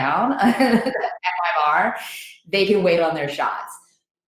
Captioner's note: laughs